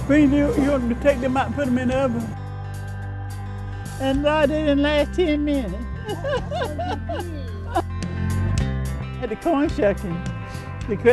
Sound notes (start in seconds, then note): 6.0 laughter